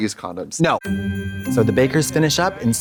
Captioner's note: festive chime